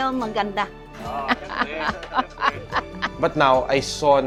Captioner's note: laughs